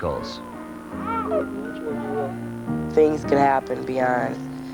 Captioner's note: baby Crying